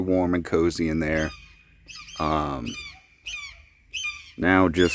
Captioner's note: birds caw